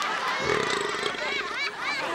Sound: burping

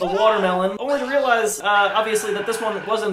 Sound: screams in background

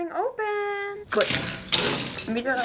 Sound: singsong; chains rattle; door squeaks

